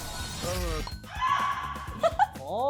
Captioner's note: the pterodactyl screeches